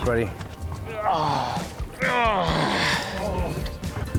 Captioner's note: groans